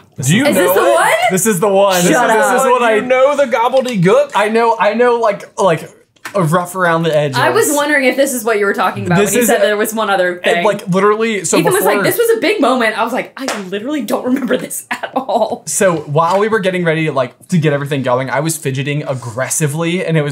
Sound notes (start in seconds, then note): 13.4 hands slapping